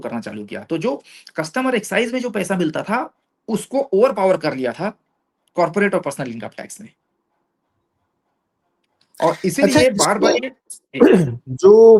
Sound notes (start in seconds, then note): 11.0 sound of clearing throat